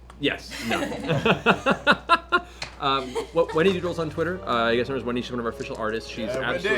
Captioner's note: laughs